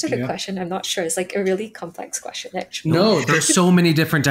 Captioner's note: chuckling